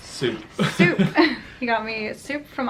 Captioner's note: laughs